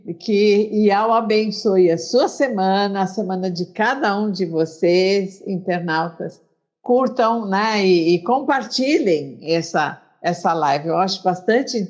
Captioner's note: Speaking Hebrew